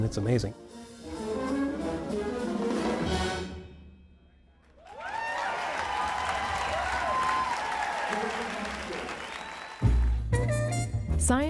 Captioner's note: applause